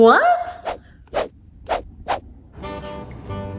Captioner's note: camera swooshes; jazz music